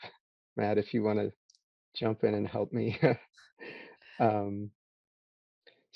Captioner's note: chuckles